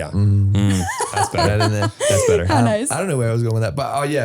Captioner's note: both laughing